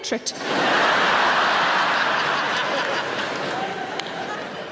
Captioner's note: audience laughing